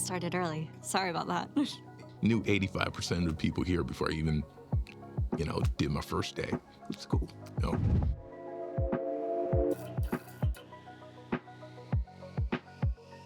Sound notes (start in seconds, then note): 1.9 laughs; 8.1 gentle upbeat music; 8.3 logo chimes